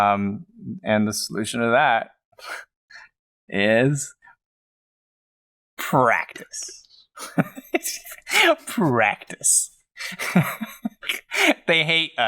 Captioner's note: chuckles